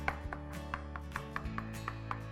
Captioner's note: chopping